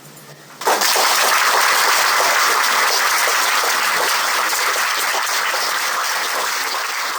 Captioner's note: applause